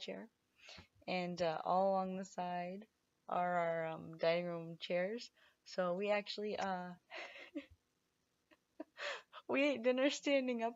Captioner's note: laughs